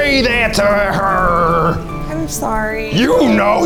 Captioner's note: in puppet voice